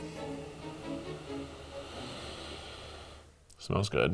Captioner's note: dramatic music; sniffing